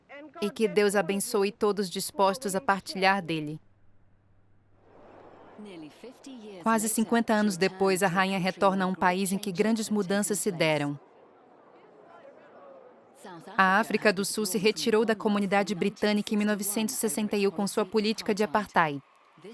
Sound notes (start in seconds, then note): 11.8 people chattering